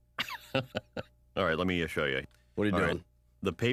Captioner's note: laughs